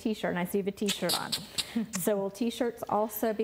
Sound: clicks tongue

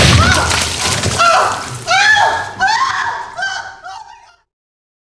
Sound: screams

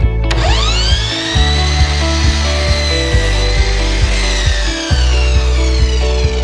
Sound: loud miter saw

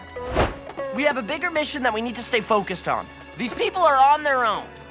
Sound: none

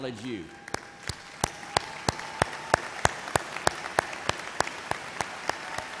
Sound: audience cheers and applauds

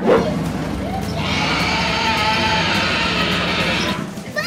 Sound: dinosaur roar

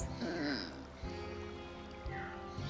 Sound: groans

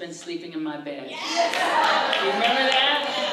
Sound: applause

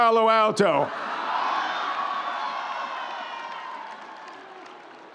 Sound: audience applauding

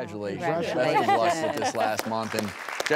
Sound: laughs

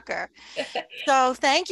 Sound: chuckles

